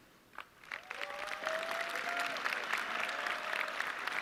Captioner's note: audience clapping